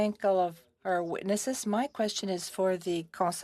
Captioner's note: speaking French